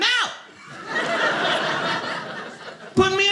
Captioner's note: audience laughing